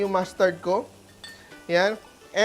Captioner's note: sizzles